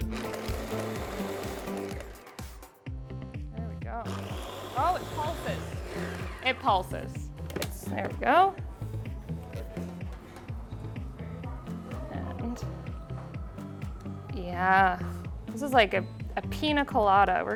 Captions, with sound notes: (blender whizzes) There we go. (blender whizzes) Oh, it pulses! (blender whizzes) It pulses. (blender clicks) It's, there we go. And, yeah, this is like a pina colada,